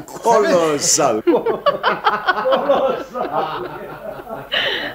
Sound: everyone laughs

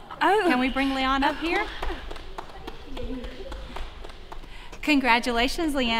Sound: applause

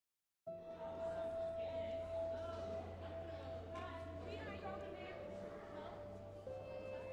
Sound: peaceful instrumental music; people chattering

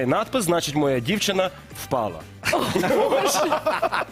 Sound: laughter

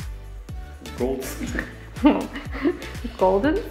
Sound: laughs

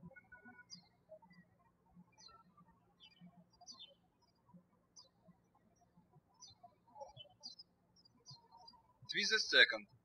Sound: birds chirping

